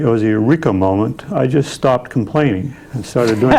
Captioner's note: laughing